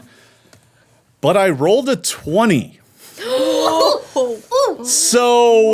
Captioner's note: women gasping